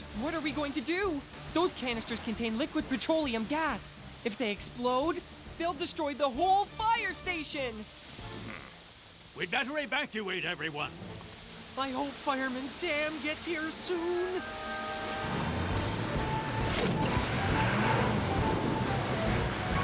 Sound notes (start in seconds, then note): 15.2 engine Roars; 17.0 splash